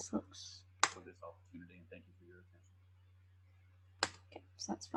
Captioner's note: speaking faintly